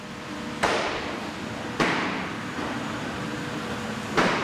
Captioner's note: thumps, machine hum